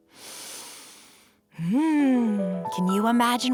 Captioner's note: inhaling